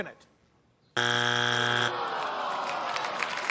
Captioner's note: buzzer sounds; crowd groans